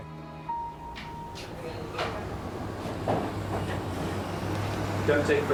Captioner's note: van engine whirring